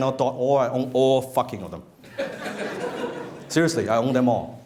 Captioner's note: laughing